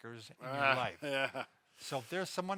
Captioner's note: laughs